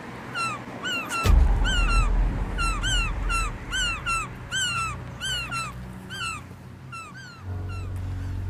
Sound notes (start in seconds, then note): 0.2 gulls squawking; 1.2 thunder thumping; 3.3 gulls squawking